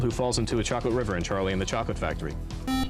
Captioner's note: beep